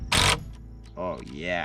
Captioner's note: drill whirring